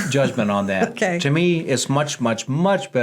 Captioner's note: laughs